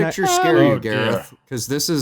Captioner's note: nervously high-pitched